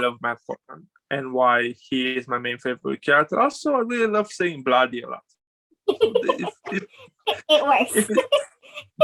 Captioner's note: laughs